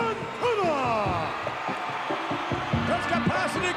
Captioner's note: audience cheering